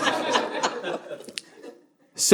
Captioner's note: audience laughing